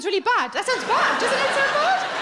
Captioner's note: audience laughing